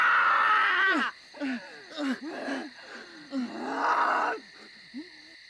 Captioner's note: panting